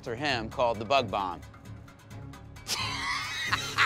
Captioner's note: laughs